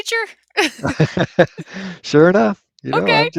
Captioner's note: laughter